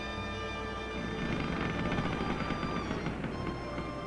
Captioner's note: rail creaking